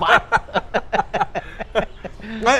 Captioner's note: laughs